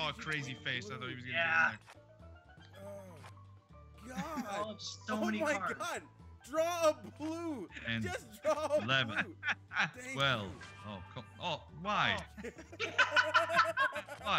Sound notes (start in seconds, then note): 7.7 laugh; 12.2 laugh